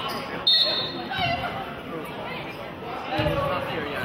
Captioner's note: whistling